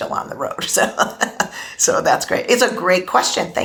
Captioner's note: laughs